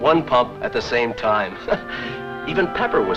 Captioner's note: chuckles